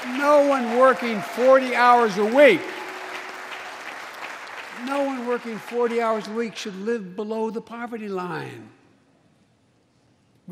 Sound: applause

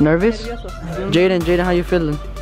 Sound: speaks in foreign language

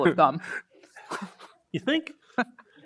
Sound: snickers

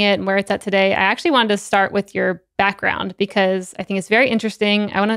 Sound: none

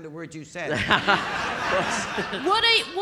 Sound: audience laughing

